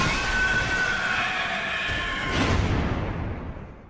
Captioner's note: monster screeches